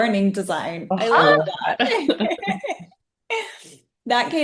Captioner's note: group laughing